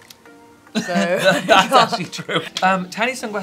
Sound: both laughing

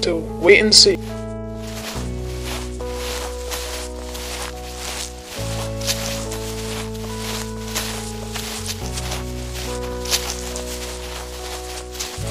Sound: footsteps

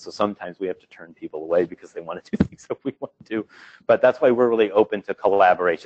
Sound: laughing

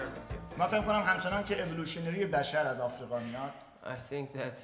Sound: speaking in farsi

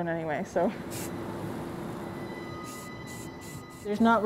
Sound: water spraying

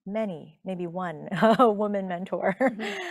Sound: chuckling

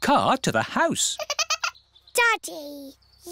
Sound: giggling

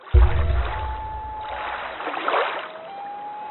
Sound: water rushing, loon calling

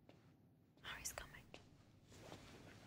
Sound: whispering

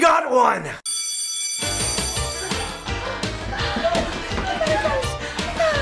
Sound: alarm ringing; lively music

